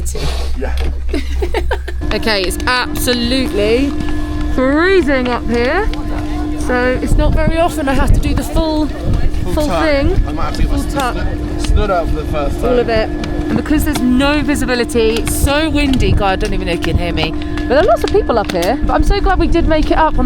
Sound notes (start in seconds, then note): 1.1 laughs